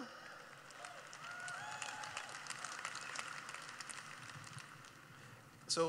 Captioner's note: cheering